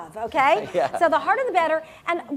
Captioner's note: laugh